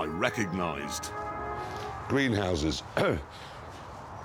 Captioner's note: coughs